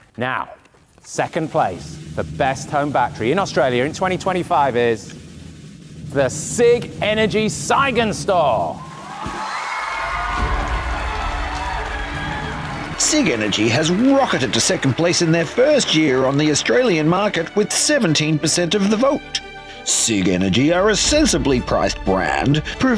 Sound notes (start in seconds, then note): 1.4 drum roll; 8.7 audience cheering and applauding